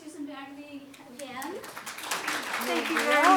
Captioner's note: applause